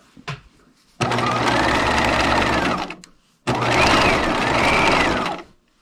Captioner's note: sewing machine roaring